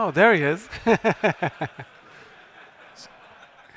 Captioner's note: laughter